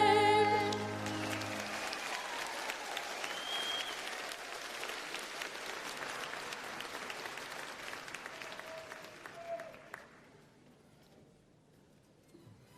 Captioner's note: applause